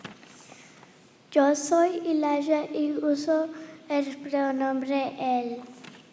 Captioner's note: boy speaking in foreign language